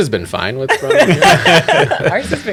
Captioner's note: laughter